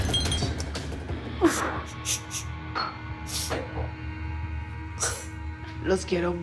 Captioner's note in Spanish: Sollozos